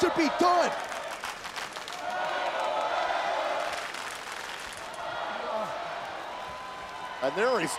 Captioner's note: applause